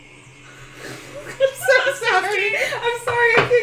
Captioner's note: nervous laughter